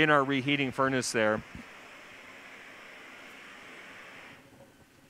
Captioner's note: pause